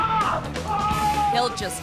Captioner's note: screaming